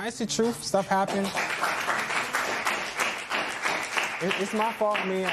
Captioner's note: applause